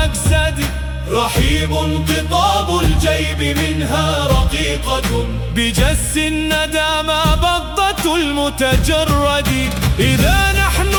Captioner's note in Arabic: صوت المعركة